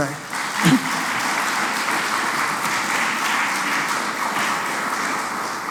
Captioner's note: applause